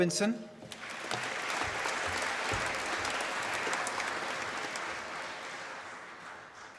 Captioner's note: applause